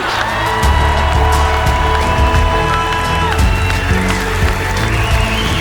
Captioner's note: audience cheering and applauding